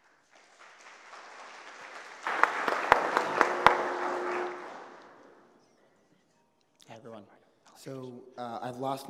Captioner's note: applause